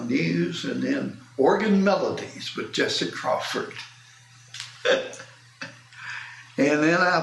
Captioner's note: laughs